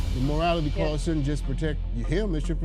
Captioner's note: logo whooshing